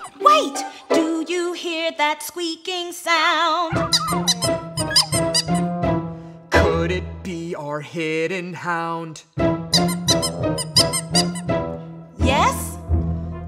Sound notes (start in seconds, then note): 3.7 dog whimpering; 9.7 squeaking